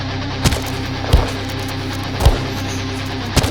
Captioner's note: Henchmen stomp on Jesse repeatedly